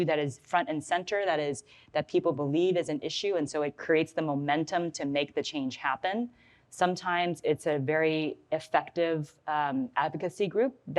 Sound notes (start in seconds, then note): none